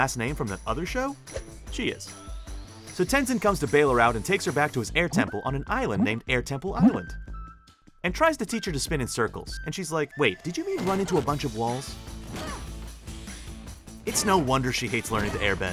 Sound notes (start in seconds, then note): 11.9 groaning